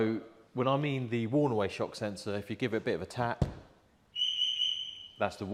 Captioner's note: beep beep beep